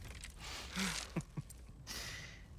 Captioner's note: laughs